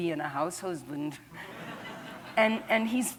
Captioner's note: laughter